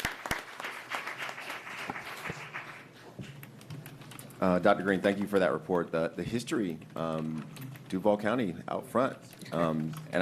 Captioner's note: applause